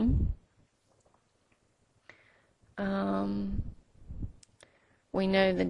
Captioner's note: silence